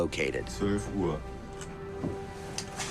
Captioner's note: speaking German